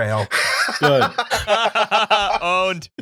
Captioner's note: laughter